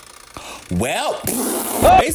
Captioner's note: clicking continues; blows raspberry